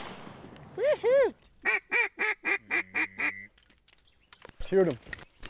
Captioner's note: gunfire; rapid duck calls